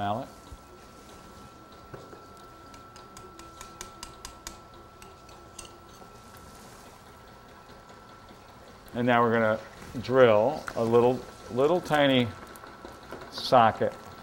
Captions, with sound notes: Mallet. (crisply hammering with mallet) And now we're going to drill a little tiny socket.